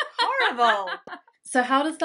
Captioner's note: laughter